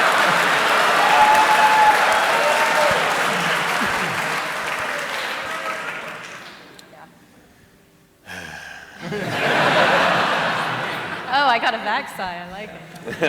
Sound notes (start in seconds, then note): 0.0 laughter and applause; 8.2 sighs